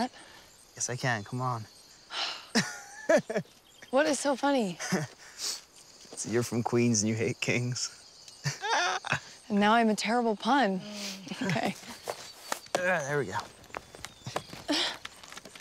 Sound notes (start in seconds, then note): 2.5 laughs